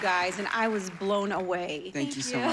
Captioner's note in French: laughs